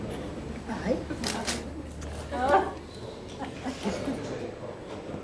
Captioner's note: crowd chattering